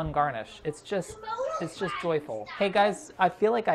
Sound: children talking

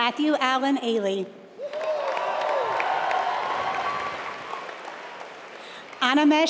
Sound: applause

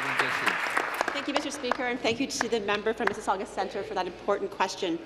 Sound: applause

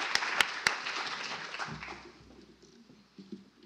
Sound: applause

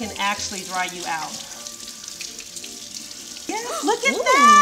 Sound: water running

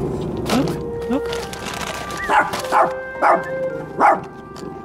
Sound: barks

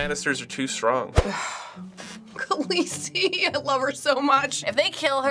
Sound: sighs

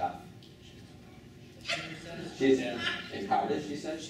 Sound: chattering

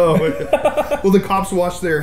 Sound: laughs

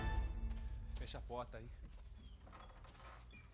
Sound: speaking in Spanish

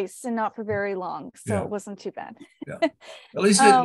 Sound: laughs

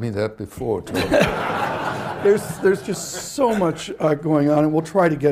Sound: laughter

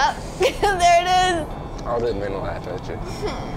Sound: laughing

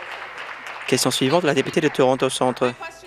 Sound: applause

